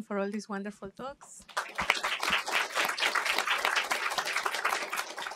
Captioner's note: applause